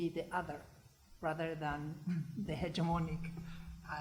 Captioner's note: foreign language